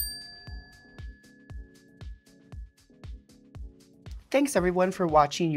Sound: chime dinging

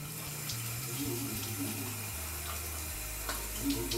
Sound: water splashing

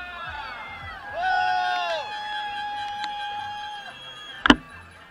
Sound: shouts of cyclists

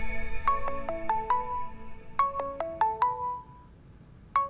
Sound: cell phone ringing

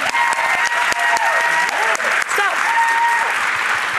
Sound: cheering

